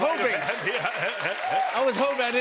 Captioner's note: cheers and applause